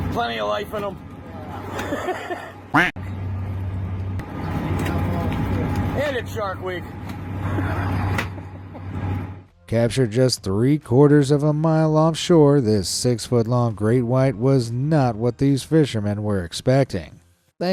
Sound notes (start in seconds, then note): 1.6 fisherman laughing; 2.7 duck quacking; 7.4 laughing